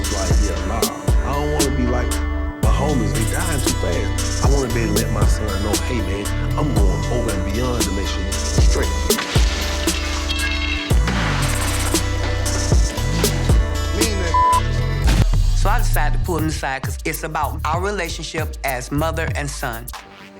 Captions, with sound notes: I was like, yeah, nah. I don't want to be like my homies. They're dying too fast. I wanna be able to let my son know, hey, I'm going over and beyond to make sure you straight. (glass shattering) Mean that (beeping). - So I decided to pull him aside, 'cause it's about our relationship as mother and son.